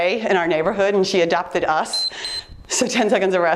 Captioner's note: timer beeps